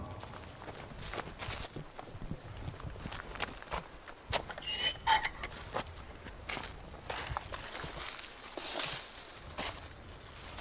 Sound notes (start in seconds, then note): 0.2 leaves crunching; 4.6 gate creaks